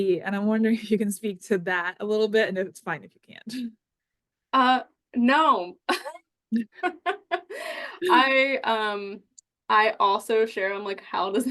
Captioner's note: chuckles